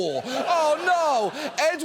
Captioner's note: studio audience laughing